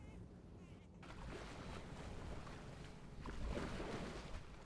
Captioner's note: waves splashing